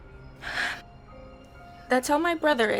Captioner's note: Laila sighs